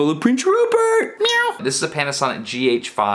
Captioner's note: meowing